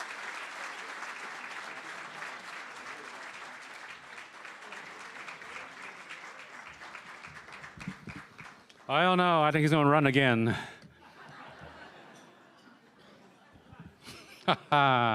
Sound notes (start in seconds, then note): 4.7 applause & Cheering; 14.9 laughter